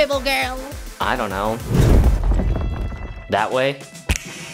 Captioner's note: loud crash; snap